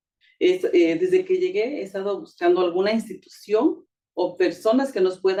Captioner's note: speaking Spanish